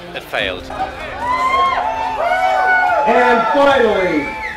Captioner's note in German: Menge jubelt